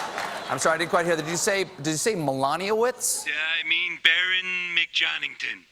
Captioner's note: applause; laughter